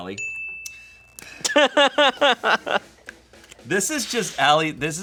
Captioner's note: bell dings; laughing